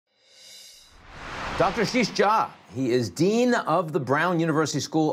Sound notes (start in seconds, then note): 0.6 air whooshing